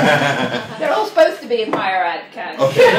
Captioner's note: laughter